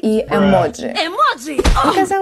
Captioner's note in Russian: бдыщ